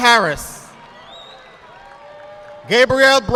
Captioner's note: audience clapping